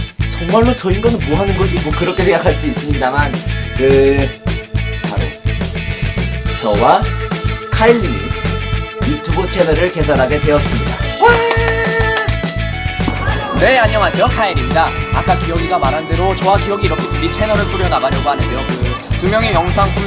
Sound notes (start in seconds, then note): 11.1 Clapping like a seal